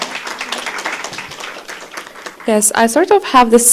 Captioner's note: applause